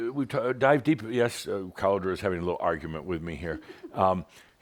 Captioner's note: giggles